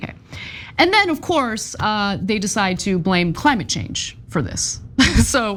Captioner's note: laugh